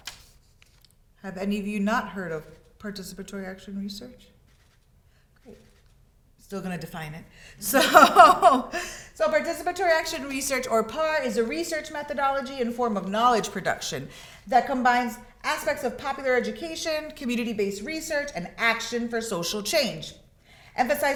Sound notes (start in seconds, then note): 7.6 laughs